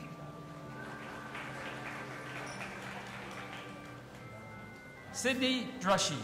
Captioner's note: audience applauding